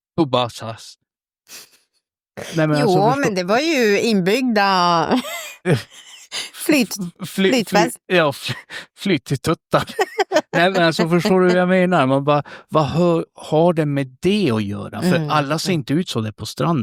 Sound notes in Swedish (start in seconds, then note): 5.1 skratt